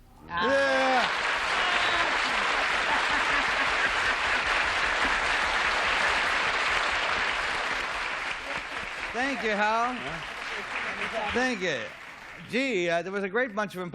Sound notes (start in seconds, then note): 2.5 applause